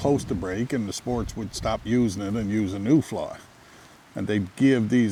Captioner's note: river gurgling